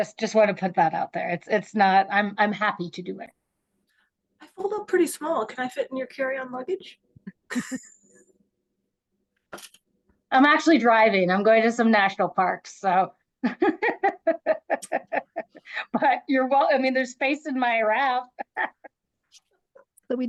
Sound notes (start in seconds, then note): 7.2 chuckles; 13.5 laughs; 18.2 laughs